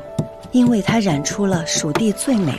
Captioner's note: grinding and mixing